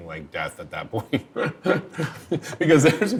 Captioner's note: laughing